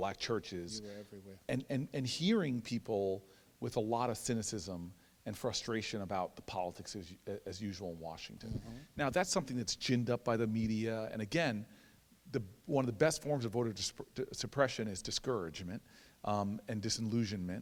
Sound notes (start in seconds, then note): none